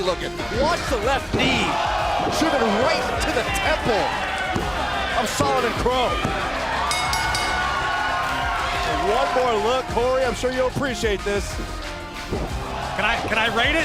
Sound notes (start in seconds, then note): 6.8 bell ringing; 8.2 cheers and applause